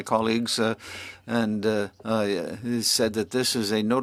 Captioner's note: speaking French